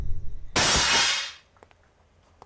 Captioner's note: Breaking sound